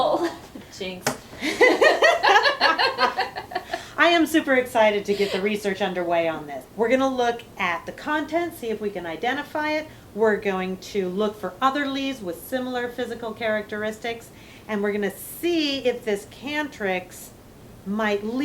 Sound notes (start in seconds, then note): 1.4 laughter